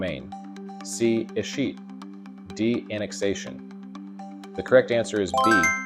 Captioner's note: bell dings